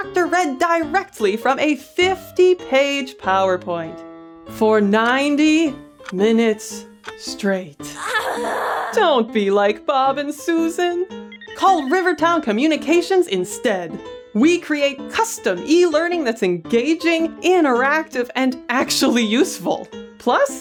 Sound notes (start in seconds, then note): 6.4 ticking clock; 11.2 dialing phone